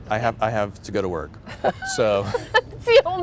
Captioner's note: laughter